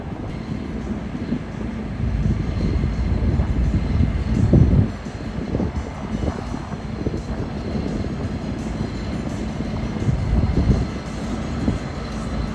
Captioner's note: wind; train noises